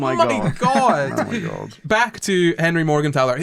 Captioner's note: laughter